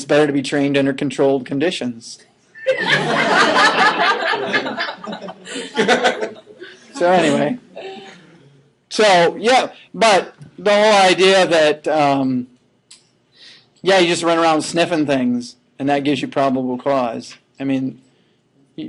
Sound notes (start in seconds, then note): 5.3 laughing